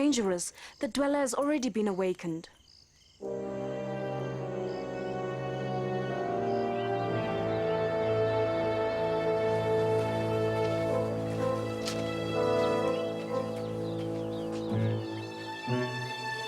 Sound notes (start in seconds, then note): 0.3 dramatic synthesized music; 4.2 birds chirping